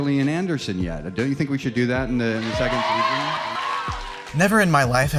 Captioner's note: applause